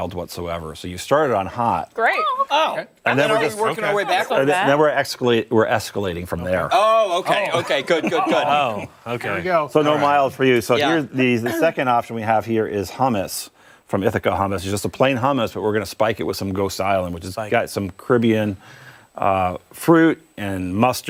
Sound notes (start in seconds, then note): 7.3 laughter